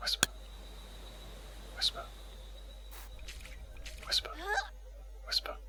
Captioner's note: whisper